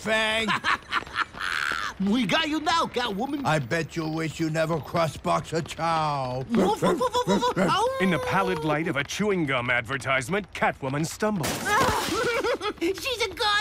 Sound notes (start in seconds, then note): 0.4 laughing; 6.5 all barking; 11.8 laughs